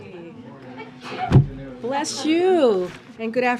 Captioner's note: A reporter sneezes